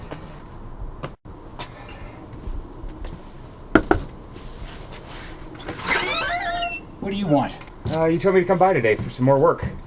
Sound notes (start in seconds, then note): 3.7 knocks; 5.6 door opens